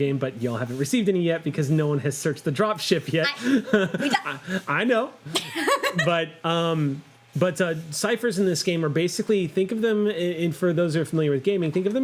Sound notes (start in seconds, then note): 3.2 laughing; 5.3 laughs